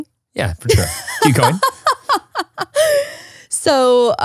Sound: laughs

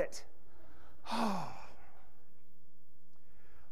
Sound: sighs

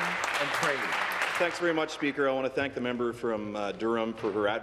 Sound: applause

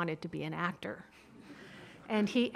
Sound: audience laughing

